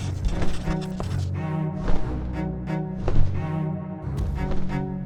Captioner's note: pen scratching